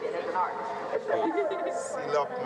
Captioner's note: camera woman laughing